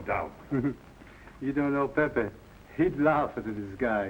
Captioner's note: chuckles